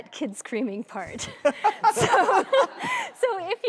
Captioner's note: laughter